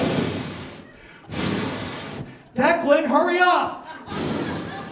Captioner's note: audience laughs; blowing